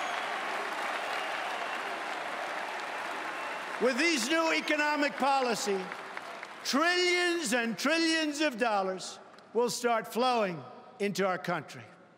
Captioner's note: cheering and Applause